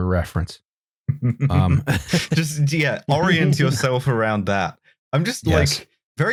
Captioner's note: chuckles